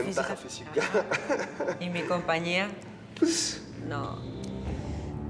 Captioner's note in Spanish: risa nerviosa de felipe